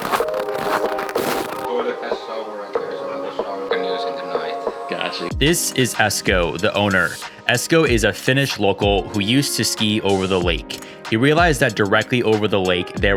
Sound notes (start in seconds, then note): 1.9 murmurs